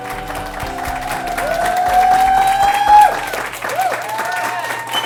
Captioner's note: applause